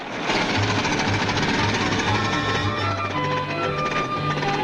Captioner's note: robot whirs